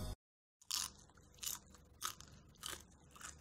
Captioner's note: crunching